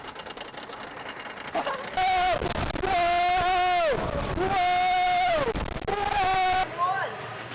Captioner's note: insane coaster screams